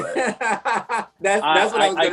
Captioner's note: laughs